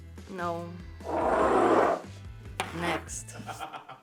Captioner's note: glasses scraping; assistant laughs